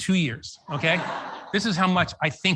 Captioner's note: audience laughs